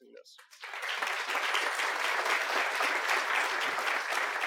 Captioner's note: applause